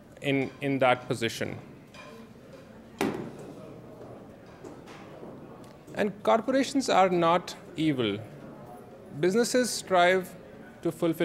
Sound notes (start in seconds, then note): 1.5 door Closes